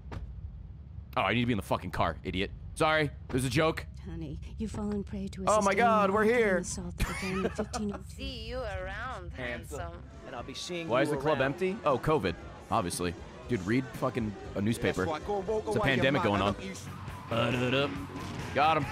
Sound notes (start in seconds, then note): 7.0 laughs